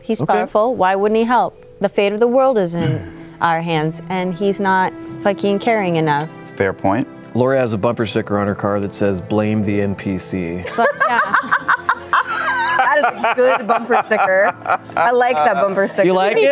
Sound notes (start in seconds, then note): 10.6 laughing